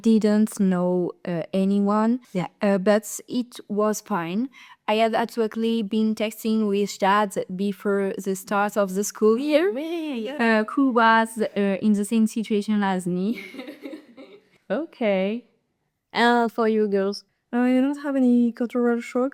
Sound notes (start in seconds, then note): 13.3 laughters